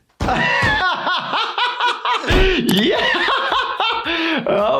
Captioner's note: laughing